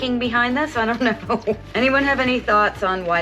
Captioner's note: chuckling